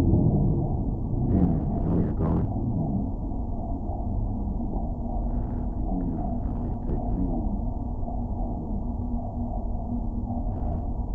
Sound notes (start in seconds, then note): 2.8 man speaks in muffled voice